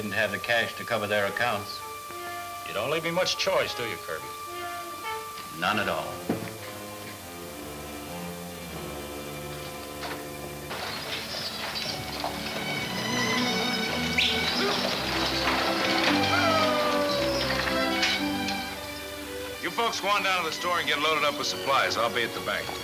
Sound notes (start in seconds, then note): 9.1 pleasant orchestra music; 12.9 yelling at horses